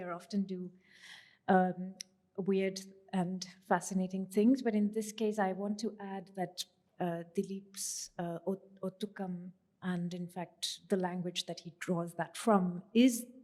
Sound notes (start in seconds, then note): 8.6 non-english